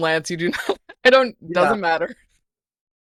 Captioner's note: laughs